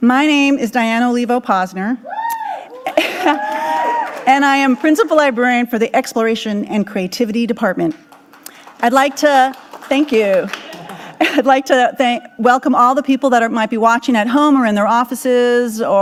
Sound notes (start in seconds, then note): 7.9 audience clapping